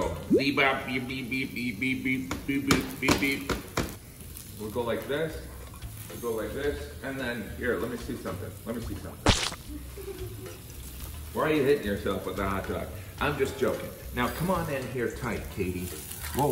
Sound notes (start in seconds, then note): 9.2 hot dog splats; 9.5 laughs